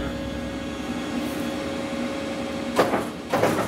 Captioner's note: soft whirring